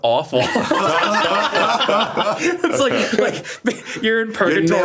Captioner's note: group laughs